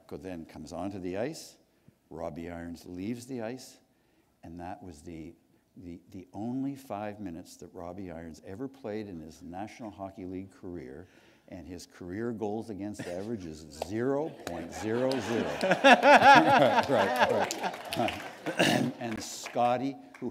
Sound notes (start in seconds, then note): 14.3 laughter; 16.2 applause